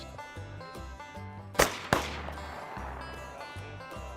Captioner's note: gun shots